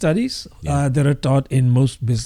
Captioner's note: uh